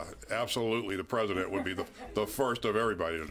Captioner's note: laughter